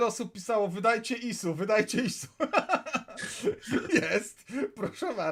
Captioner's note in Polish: śmiech